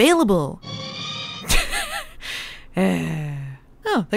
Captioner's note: laughs and sighs